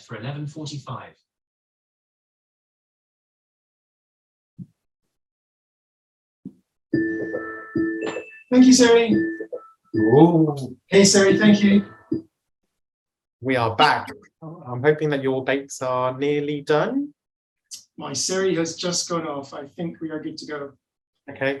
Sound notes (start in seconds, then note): 7.0 Mikes Alarm